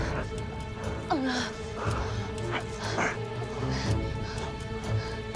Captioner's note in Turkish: Nefes sesleri